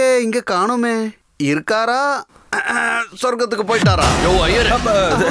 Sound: clears throat

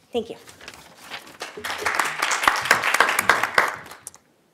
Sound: applause

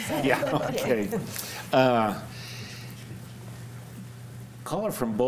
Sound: panelists chuckling

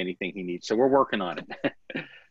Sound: laughter

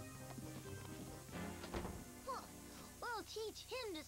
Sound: door closes

